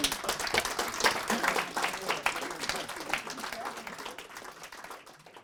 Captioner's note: applause